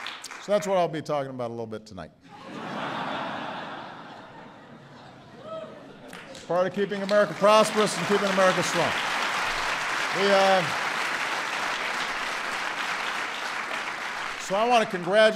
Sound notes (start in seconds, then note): 6.1 laughter; 13.9 applause